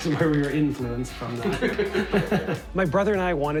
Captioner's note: all laugh